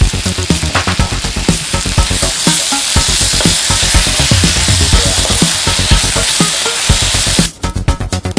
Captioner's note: stir-fry the cabbage, sizzling sound in the background; stir-fry the onion, sizzling sound in the background